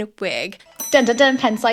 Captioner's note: bell ringing